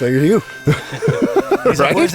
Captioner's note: all chuckling